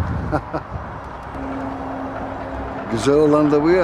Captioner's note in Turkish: Trafik sesi